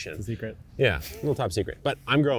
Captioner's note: chuckling